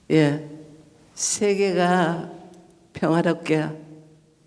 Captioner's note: speaking foreign language